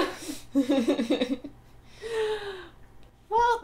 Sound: laughter

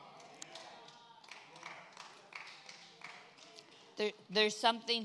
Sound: congregation applauds

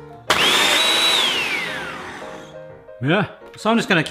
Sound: processor blending

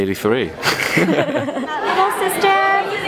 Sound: laughs

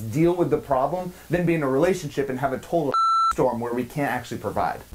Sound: beep

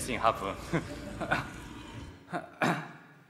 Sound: laughs

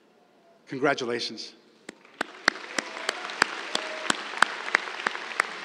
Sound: applause

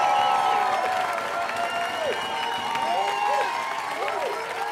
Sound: cheering

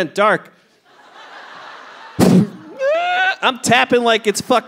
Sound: audience laughing

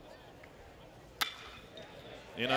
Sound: crack

